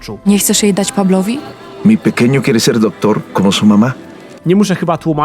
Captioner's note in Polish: Marco odpowiada w obcym języku